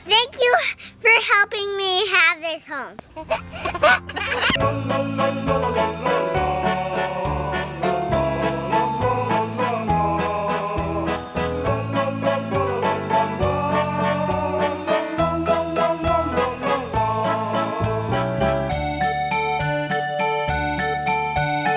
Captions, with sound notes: Thank you for helping me have this home. (giggling) (playful music)